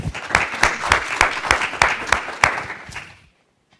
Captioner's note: audience applauds